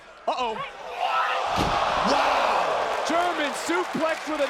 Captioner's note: crowd cheering